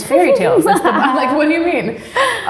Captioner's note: laughs